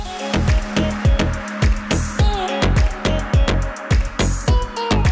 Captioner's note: clap